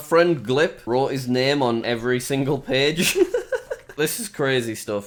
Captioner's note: laughs